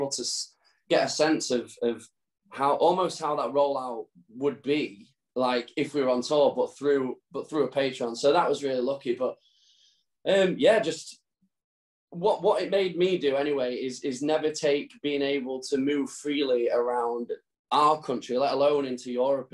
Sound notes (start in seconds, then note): none